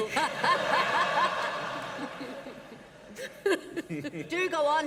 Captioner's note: laughter